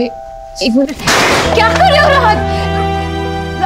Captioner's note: Bang